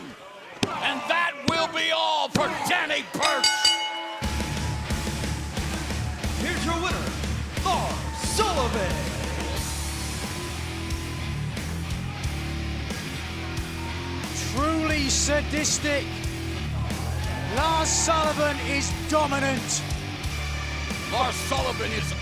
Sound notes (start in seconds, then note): 3.2 bell ringing